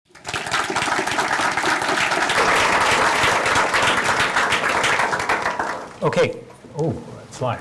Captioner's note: applause